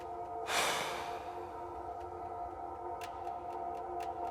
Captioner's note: Danny sighs